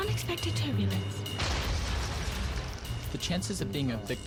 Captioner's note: explosion